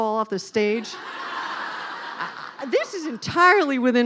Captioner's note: laughing